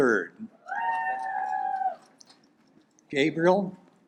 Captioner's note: audience applaud